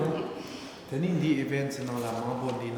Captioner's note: speaking tibetan